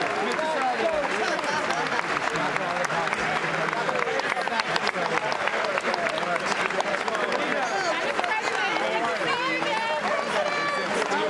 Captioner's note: applause